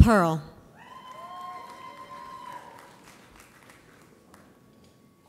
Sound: audience applauds

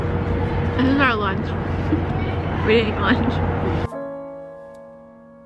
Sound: giggles

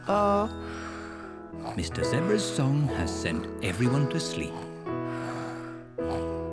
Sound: all snore

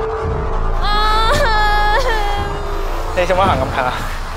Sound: sobbing

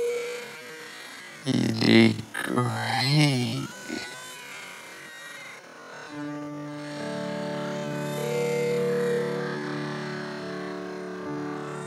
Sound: Lilo and stitch, brother bear, barbie Mattel doll crying

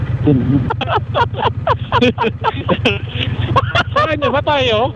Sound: laughing

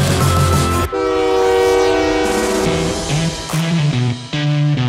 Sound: train horn honking; upbeat music

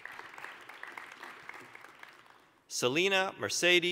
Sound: applause

